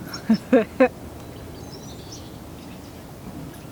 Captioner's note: laughing